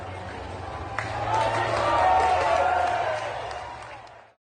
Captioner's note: crowd applauding